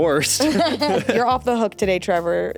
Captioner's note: laugh